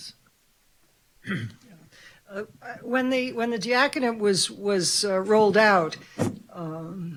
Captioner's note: clears throat